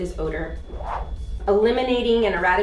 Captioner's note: air whooshing